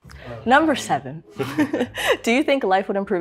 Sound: laughs

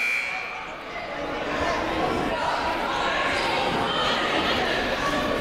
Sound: buzzer ringing; people shouting in the crowd

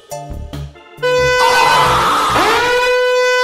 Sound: air raid siren

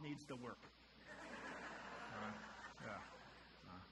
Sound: audience laughter

